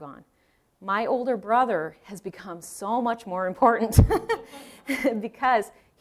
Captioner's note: laughing